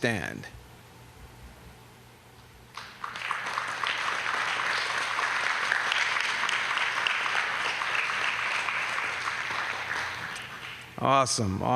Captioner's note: applause